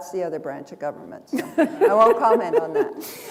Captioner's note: chuckle